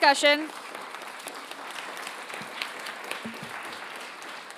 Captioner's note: audience applauds